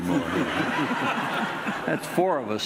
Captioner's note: audience laughing